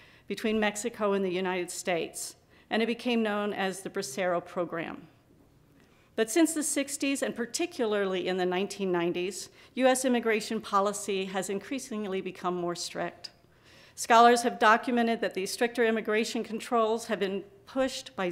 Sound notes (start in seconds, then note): none